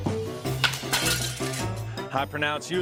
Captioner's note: glass shatters